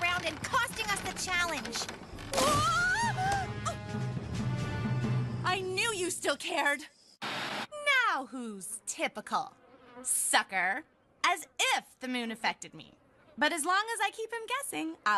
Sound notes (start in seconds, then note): 3.1 gasping